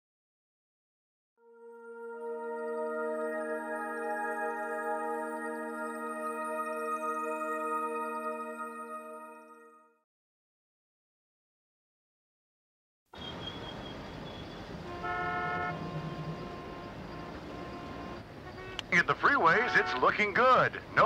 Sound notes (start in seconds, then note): 1.5 gentle music; 15.3 car horns honking